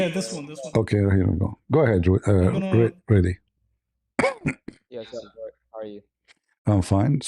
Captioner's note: clears throat